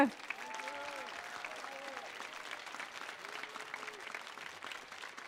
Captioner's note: audience applauding and cheering